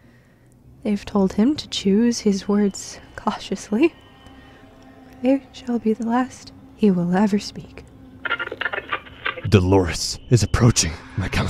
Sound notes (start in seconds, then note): 8.2 radio tuning